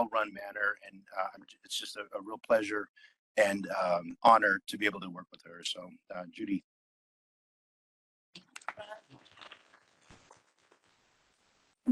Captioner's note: applause